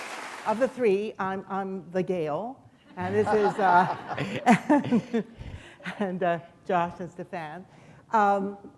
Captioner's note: applause; laughter